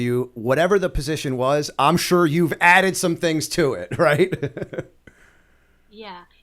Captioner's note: chuckle